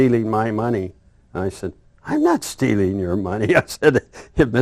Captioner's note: laughs